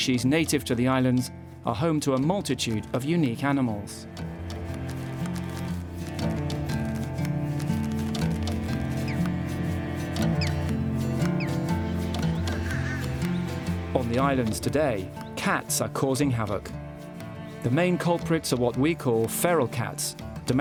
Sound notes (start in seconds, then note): 10.0 bird chirping; 12.1 bird squawking